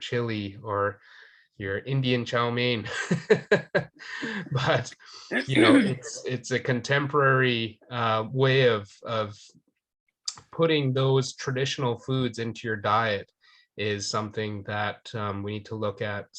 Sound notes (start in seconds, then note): 2.9 laughing